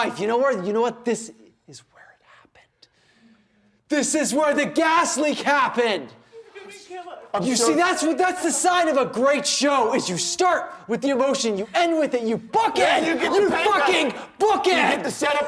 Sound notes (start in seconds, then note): 12.6 sobbing